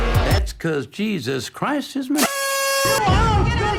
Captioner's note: honk